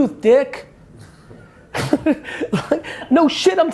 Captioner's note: laughs